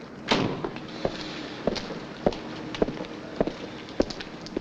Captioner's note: car door slams